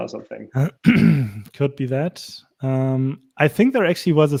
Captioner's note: clears throat